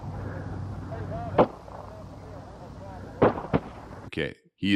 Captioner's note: gunshots